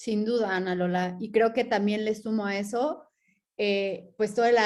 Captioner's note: speaking in Spanish